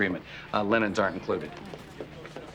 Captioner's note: none